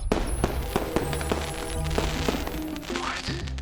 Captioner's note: fireworks exploding